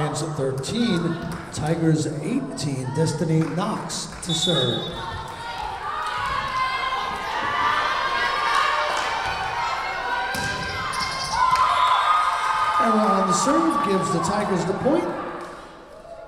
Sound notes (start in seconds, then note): 4.2 whistle blowing